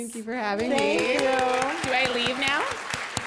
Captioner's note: applause